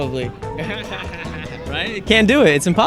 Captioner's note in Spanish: Todos ríen